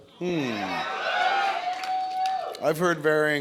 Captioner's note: cheers